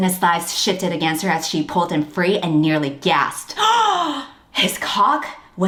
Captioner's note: gasps